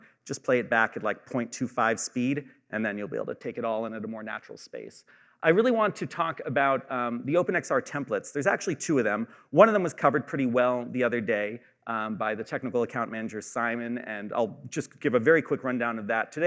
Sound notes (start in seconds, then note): none